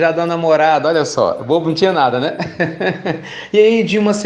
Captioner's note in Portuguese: Risos